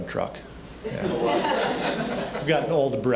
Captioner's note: audience laughing